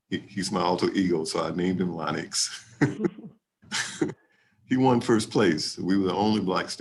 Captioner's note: laughs